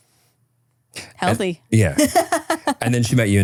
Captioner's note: laughing